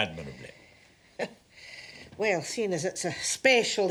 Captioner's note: chuckles